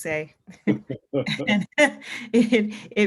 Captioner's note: both laughs